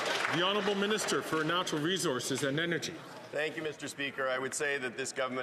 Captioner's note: some Applause